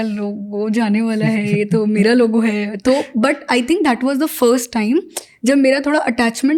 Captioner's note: speaks in Hindi